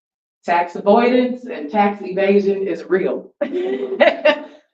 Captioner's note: laughs